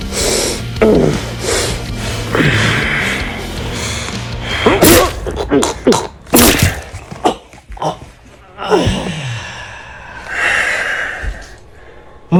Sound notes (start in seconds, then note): 0.0 heavy breathing; 4.6 choking & gagging; 4.6 stab; 8.6 heavy sigh